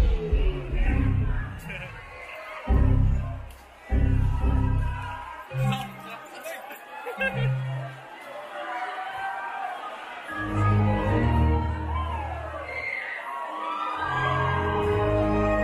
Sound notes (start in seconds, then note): 0.8 crowd murmuring; 2.8 Windows shut down noise; 10.7 Windows restart noise